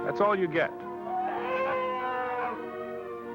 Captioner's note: growls